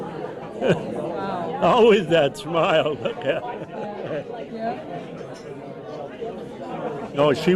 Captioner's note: laughs; laughs